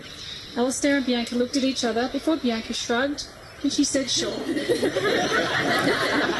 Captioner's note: guests laugh